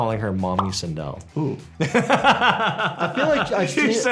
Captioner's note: laughs